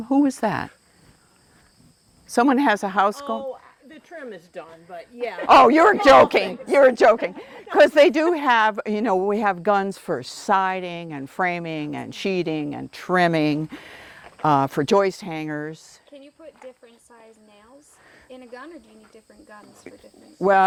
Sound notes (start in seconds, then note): 7.0 laughter